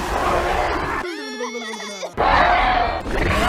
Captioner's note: toothless screaming; all exclaiming; light fury screams; toothless shouts